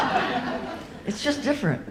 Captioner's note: audience laughs